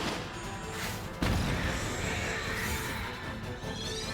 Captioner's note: zaps; explosion